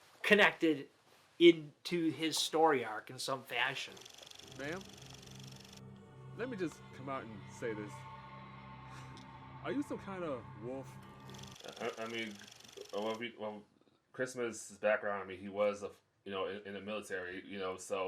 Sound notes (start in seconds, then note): 3.5 reel flickering; 5.4 eerie music; 11.2 reel flickering